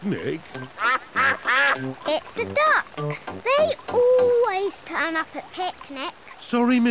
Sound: quacks

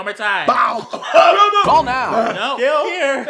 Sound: choking noises

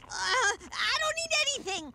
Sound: crunching

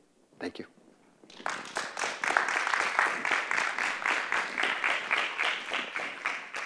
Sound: clapping

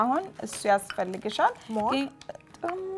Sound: speaking Amharic

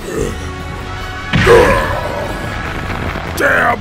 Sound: yells in pain

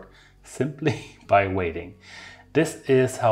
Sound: chuckling

